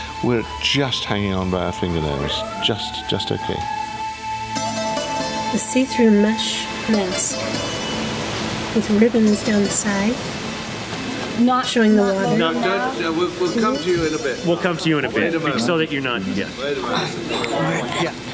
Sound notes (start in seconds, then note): 7.9 sounds of waves crashing